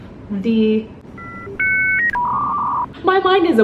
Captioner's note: dial up noises